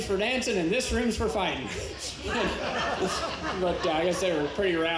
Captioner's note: laughs